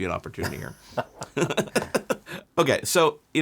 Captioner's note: both laughing